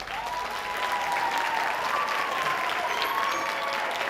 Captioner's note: audience applauding